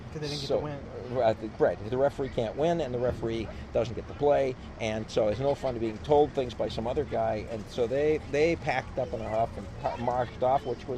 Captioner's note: laughs